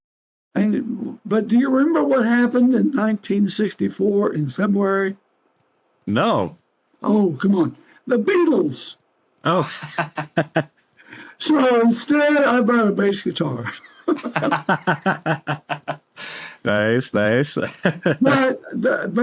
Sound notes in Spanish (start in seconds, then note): 9.6 risas; 13.6 Ambos riendo; 17.7 risas